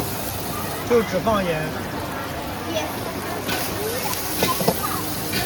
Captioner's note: grasshoppers